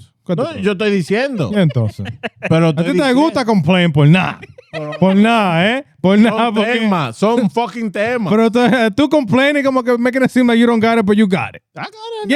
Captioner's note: speaking In Foreign Language